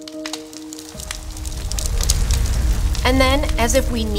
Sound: sound of crackling forest fire

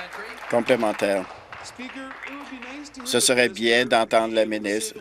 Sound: applause

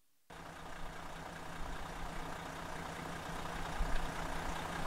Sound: bus engine roaring

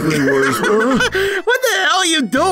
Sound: Ink laughing at error

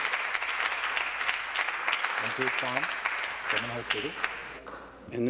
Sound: some Applause

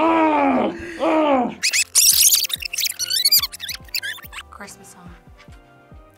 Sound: tape rewinds

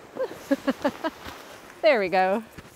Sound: giggling

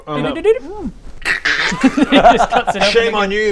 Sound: krrkkrrck

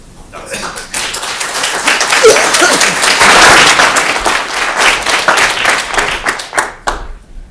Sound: applause

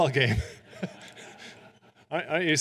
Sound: audience laughing

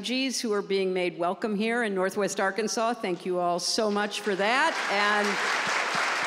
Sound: applause

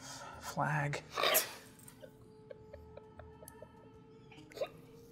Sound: laughing

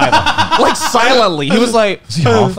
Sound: laughing

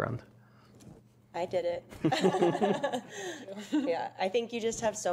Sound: laughter

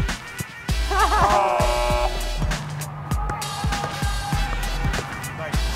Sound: laughter; buzz

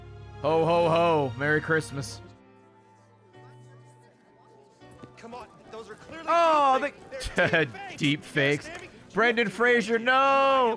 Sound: laughs

